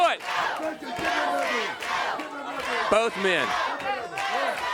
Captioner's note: crowd cheering